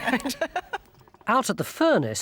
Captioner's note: group laughs